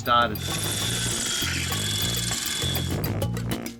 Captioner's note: drill buzzing; upbeat jazzy music